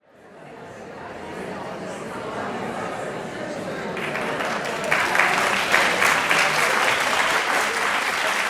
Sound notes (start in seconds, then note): 0.0 audience chattering; 3.9 audience applauds and cheers